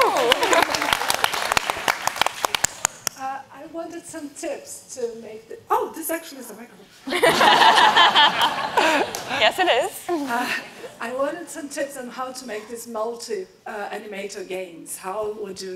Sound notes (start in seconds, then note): 0.0 audience applauds; 7.1 audience laughs